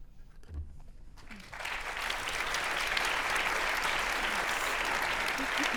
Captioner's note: audience applauding